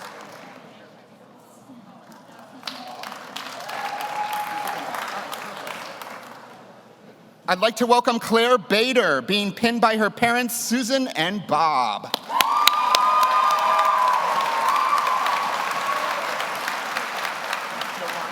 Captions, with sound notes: (audience applauds) I'd like to welcome Claire Bader, being pinned by her parents, Susan and Bob. (audience cheers) (audience applauds)